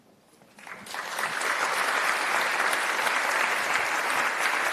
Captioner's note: applause